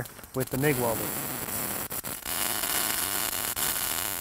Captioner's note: low buzzing